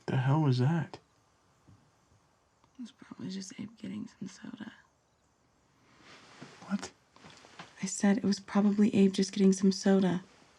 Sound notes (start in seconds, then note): none